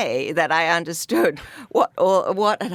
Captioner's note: laughs